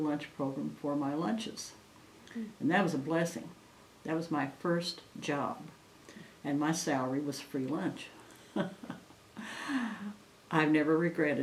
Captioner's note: laughs